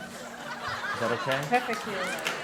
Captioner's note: audience laughing